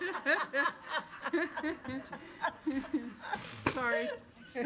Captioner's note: audience laughs